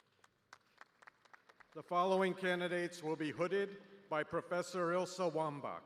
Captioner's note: applause